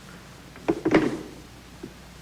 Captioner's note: phone Clicks Into Receiver